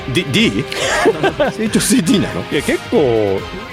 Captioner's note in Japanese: 笑い